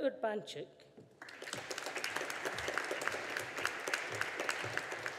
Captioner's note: audience applauding